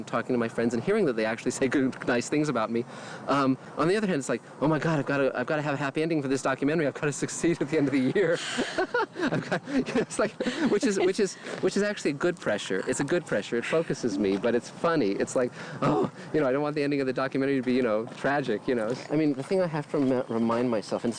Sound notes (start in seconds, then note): 7.7 laughing; 15.8 groaning